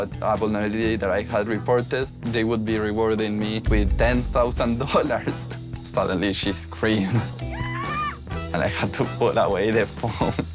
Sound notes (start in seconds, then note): 7.1 mum screams through the phone; 7.4 laughs